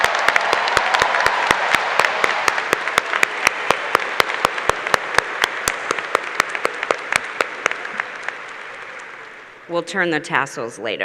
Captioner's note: applause